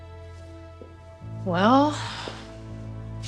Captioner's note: sighs